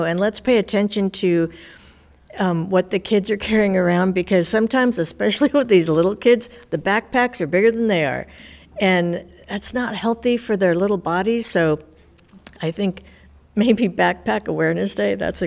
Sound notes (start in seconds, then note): none